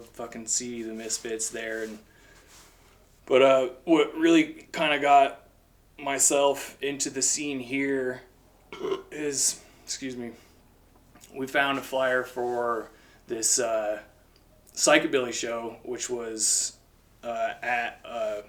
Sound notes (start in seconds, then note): 8.7 burp